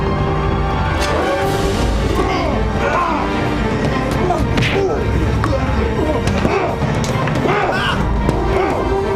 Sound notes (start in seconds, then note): 0.0 intense orchestral music; 1.3 shouting